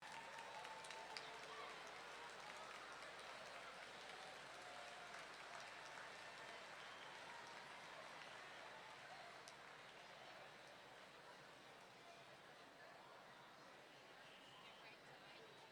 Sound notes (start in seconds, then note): 0.3 audience clapping